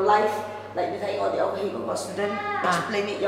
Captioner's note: Cantonese